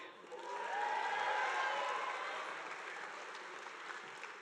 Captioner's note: audience applauding